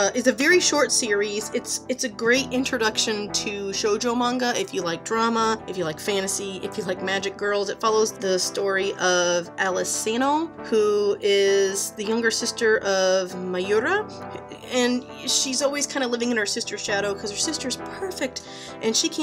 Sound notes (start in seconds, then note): none